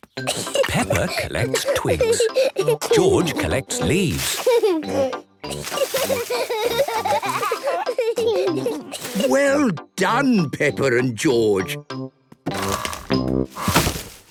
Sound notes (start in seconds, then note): 0.3 giggling; 4.8 laughing; 5.4 kids giggling